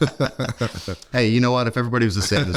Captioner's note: both laughing